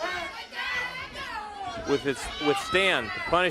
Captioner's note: crowd chatter